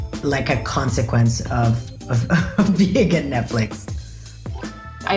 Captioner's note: chuckles